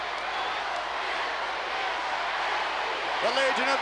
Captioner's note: crowd chants